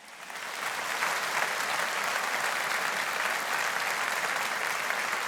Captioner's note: audience applauding